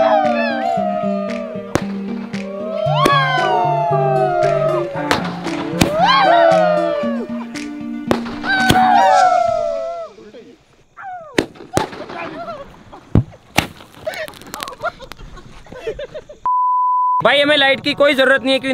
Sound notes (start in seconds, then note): 0.0 shouting with joy; 5.5 crackling sound; 8.4 shouting with joy; 11.1 bursting sound; 14.0 laughing